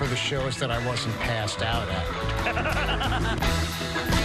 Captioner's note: laughs